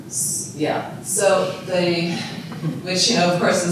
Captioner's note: audience chuckling